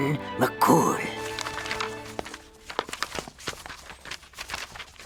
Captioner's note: pages flipping